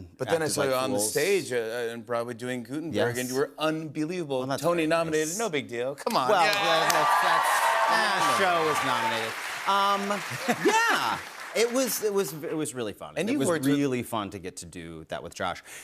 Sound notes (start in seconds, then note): 6.3 cheers and applause; 10.1 laughs